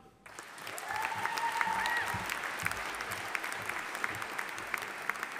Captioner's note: audience applauding